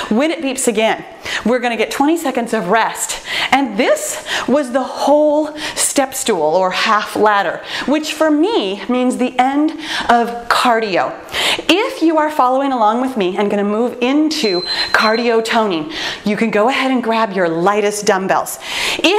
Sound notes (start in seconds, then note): 14.4 timer beeps